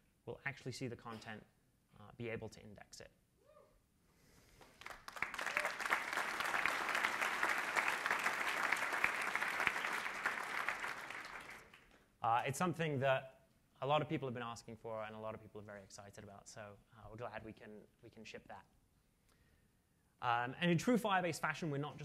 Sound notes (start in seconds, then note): 4.6 applause